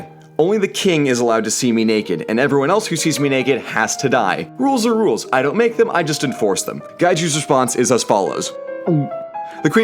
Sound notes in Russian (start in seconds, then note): 8.9 глоток